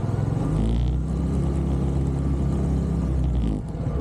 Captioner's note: motorbike engine